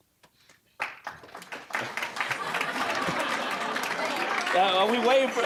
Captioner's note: applause; audience laughing